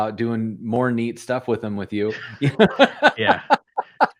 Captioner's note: laughter